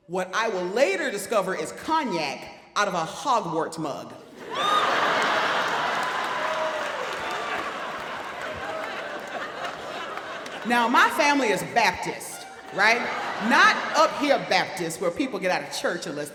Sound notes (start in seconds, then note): 4.7 audience laughing